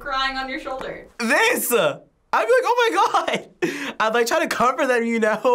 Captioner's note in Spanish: risas